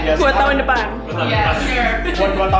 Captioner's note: chuckles